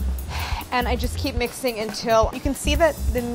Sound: sighs

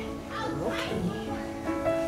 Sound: kids playing

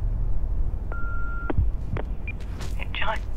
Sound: answering machine beeps

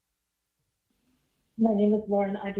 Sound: distortion

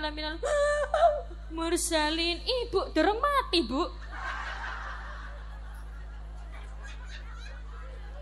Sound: laughs

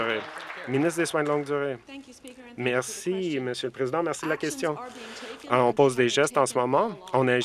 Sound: some Applause

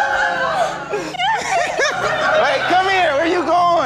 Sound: laughing; crying

